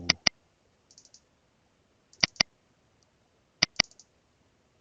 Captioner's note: mouse clicking